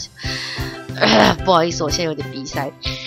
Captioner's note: clear throat